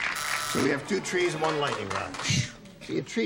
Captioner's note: buzzer